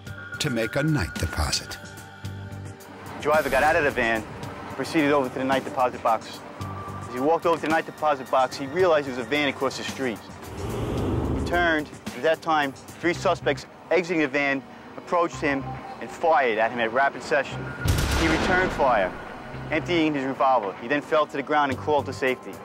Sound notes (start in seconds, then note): 17.9 gunshots